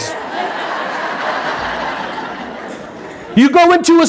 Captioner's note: audience laughing